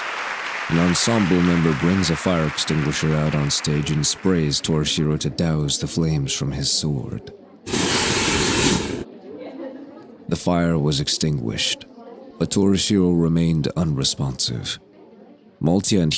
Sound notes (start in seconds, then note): 7.6 fire extinghuisher used